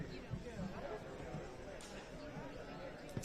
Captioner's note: background chatter